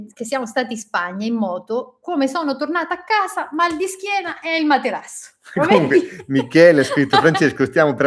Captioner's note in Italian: risate